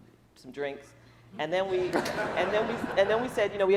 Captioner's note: laughing